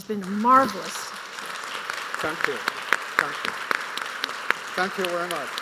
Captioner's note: audience applauds